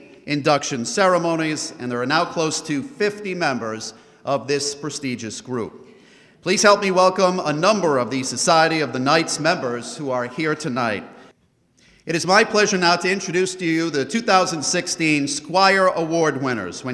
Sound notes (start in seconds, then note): none